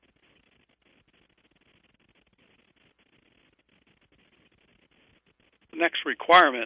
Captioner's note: pause